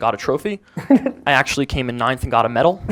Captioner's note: chuckles